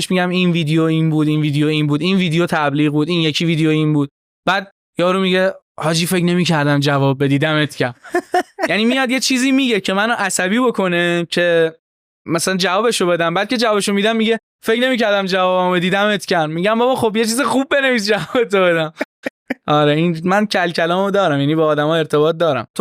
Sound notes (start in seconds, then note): 18.8 laughs